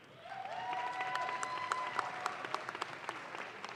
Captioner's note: audience claps